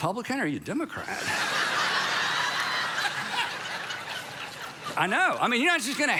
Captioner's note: congregation laughs